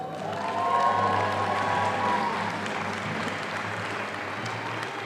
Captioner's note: audience applauding